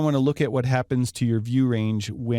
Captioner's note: voiceover